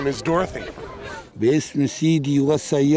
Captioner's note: non-english speech